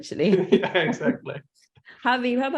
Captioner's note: laughs